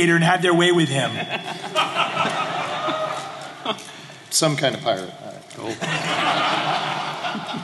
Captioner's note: laughter